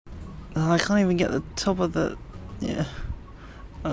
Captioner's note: moans